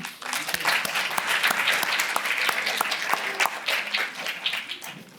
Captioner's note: applause